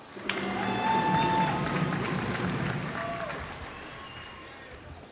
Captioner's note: cheers and applause